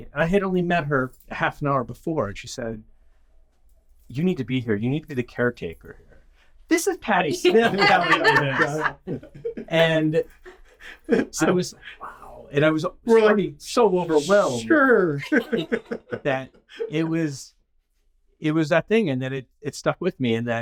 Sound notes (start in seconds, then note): 7.3 all laughing; 15.1 laughing